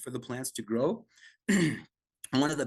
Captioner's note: coughs